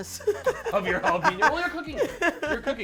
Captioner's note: laughing